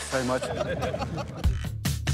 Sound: laughs

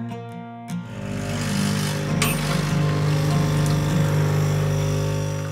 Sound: coffee machine whirring

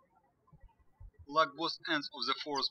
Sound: birds chirping

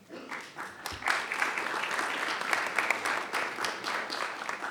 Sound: attendees applauding

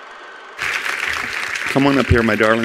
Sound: attendees applauding

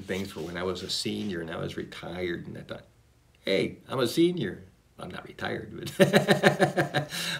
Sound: laughs

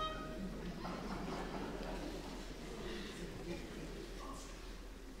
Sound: bright orchestral music; audience laughing

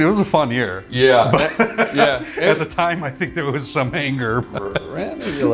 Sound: laughs

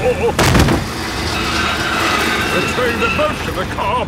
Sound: thud

